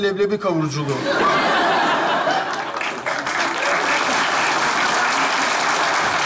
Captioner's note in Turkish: Kahkaha ve alkış sesleri